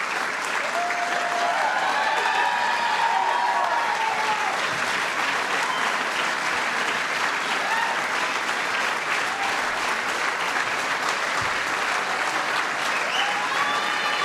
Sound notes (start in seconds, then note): 2.9 applause